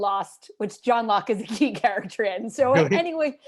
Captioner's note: laughter